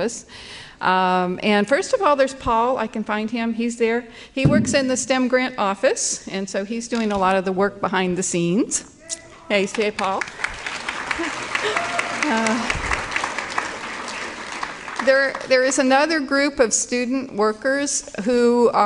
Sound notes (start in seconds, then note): 9.6 applause